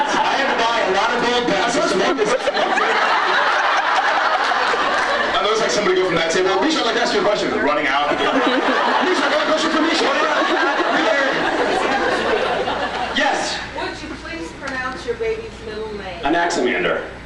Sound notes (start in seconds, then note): 0.0 laughs; 3.3 laughs; 7.8 laughs